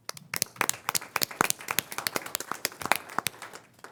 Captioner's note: crowd applauding